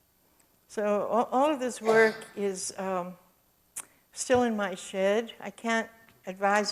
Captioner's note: audience cough